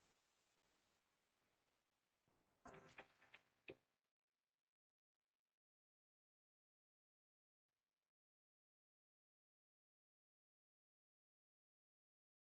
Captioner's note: long pause